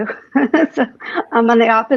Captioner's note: chuckles